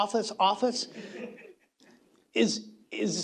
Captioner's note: laughter